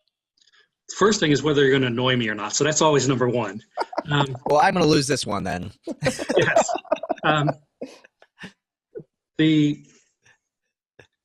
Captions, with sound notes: - First thing is whether you're gonna annoy me or not so that's always number one. (laughing) - Well, I'm gonna loose this one then. (laughing) - Yes.